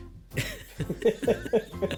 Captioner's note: laughs